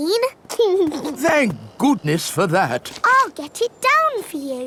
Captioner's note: giggles